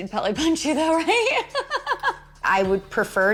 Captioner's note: laughs